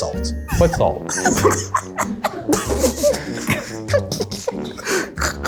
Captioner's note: laugh